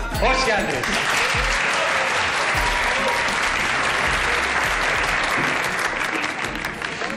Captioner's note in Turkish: Alkış